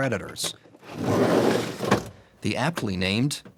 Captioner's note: box being dragged